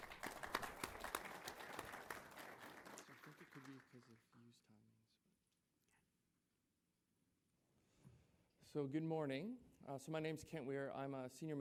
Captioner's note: applause